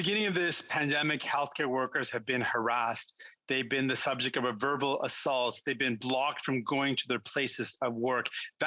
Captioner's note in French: voix de l'interprète